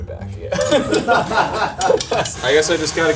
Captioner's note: film crew laughing